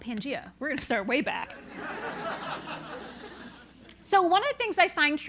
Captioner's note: laugh